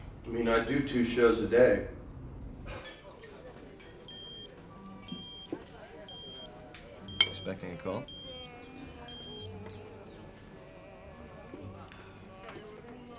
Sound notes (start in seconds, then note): 4.0 pager beeping; 8.0 italian music